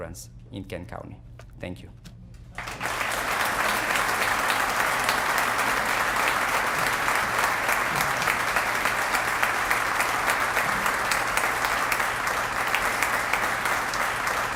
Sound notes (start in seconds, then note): 2.5 applause